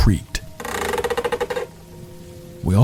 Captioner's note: creaking floorboards